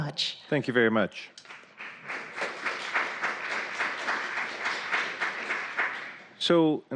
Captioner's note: applause